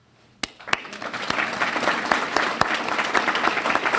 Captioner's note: clapping